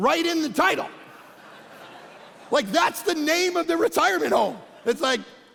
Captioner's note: congregation laughing